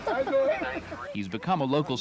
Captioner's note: laughter